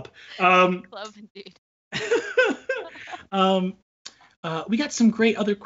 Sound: mumbles; laughs

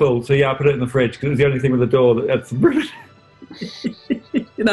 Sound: giggling; laughs

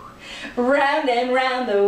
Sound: whew!

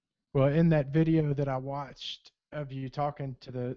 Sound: voiceover

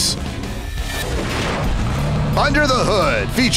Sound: revving engine

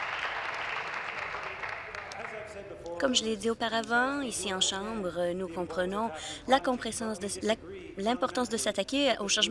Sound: applause

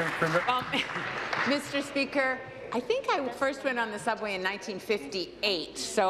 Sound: applause

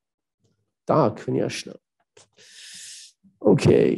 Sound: speaking German

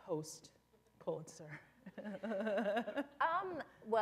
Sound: chuckle

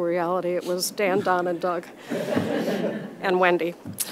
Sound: audience laughs

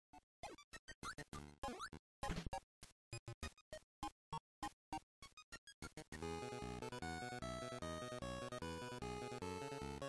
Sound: Kirby game play

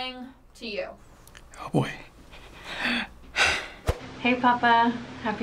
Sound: sighs

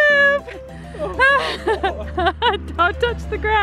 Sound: laughing

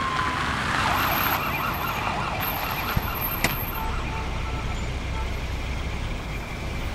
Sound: siren sound; siren sound

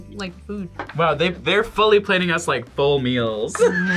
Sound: laughs

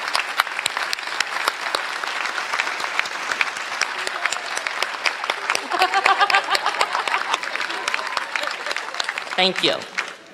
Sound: applause

